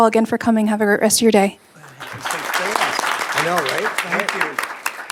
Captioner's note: applause